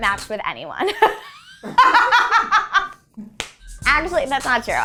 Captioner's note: laughing